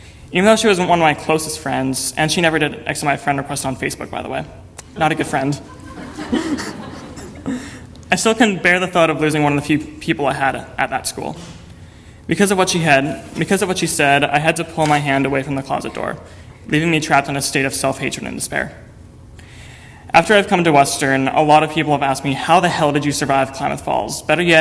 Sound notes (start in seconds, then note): 5.1 audience laughter; 5.5 laugh